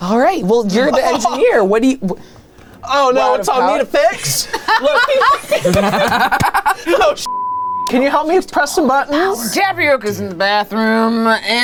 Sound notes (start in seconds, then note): 4.5 laugh loudly; 7.2 beep